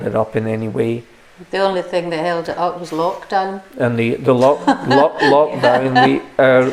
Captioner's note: laughter